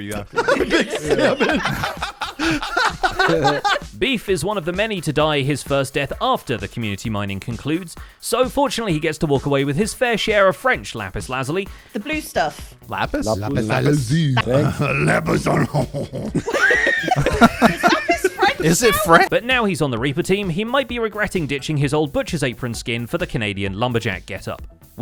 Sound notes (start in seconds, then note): 0.1 group laughs; 13.8 in French accent; 17.0 confused laughter